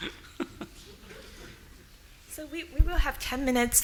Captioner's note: laughing